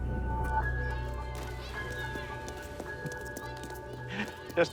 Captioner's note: children shouting; chuckles